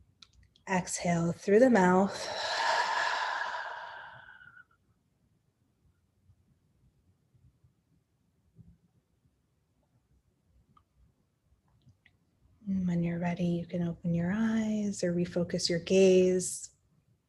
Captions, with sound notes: exhale through the mouth (exhales loudly). When you're ready, you can open your eyes or refocus your gaze,